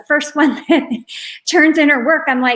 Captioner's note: chuckles